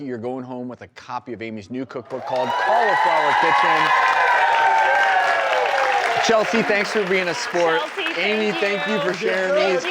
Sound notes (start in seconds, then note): 4.7 applause